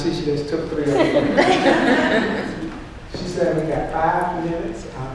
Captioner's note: laughter